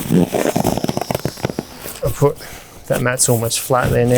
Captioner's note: pumping air out